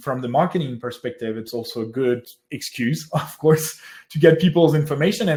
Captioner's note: laughs